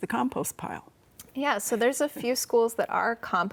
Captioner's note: laughs